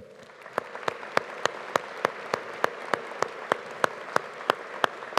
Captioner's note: audience applauding